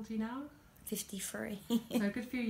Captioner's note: laughs